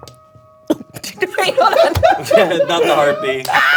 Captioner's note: laughing